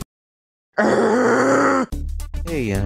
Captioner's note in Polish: Redstone jęczy